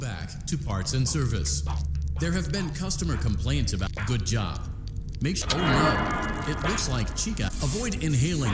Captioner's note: vocalising as he moves